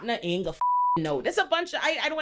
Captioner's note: beep